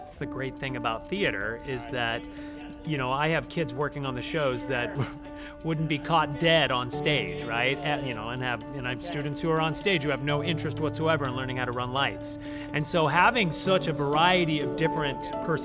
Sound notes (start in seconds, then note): 4.9 laughs